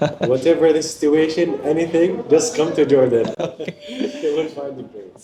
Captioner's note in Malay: ketawa